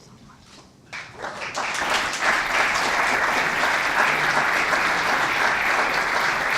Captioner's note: audience applauds